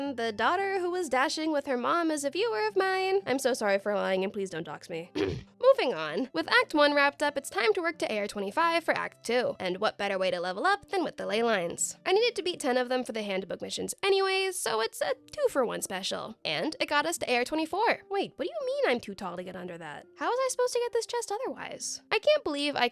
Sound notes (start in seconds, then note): 5.1 clears throat